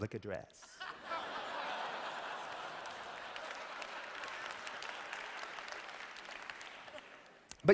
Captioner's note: laughter